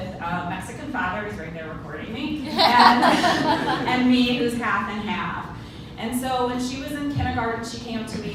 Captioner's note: ha-ha